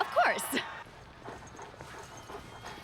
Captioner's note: laughs nervously